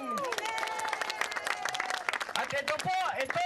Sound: crowd applauds

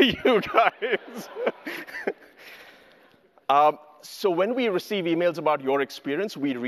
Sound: laughs

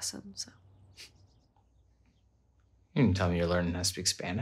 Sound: Sam chuckles

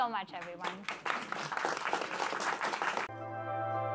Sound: applause

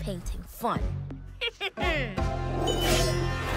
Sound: snickers

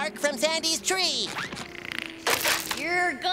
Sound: snoring

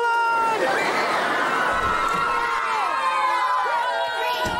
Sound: cheering

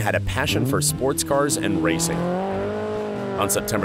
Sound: engine roaring

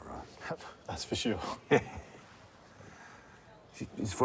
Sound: chortles

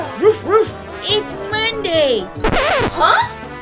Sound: record scratches

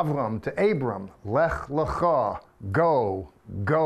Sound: speaking in Hebrew

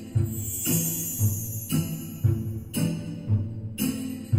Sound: light, mysterious music; bells chime

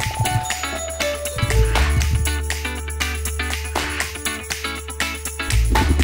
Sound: bell ringing

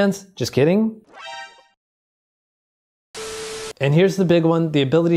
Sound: shocked sound effect; static sound effect

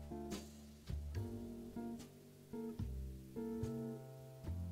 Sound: none

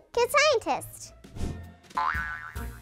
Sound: air swish; wire bouncing

